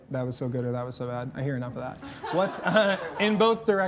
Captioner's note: contestants laugh